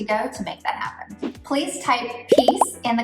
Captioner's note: air whooshing